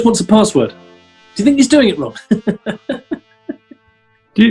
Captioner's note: chuckles